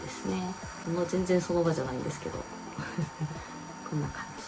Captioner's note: laughs